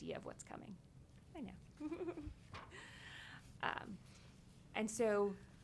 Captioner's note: chuckles